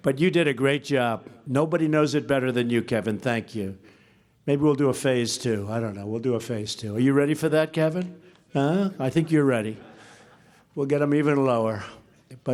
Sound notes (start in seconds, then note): 10.1 laughter